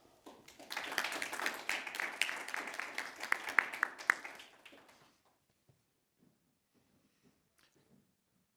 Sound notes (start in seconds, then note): 0.3 audience applauding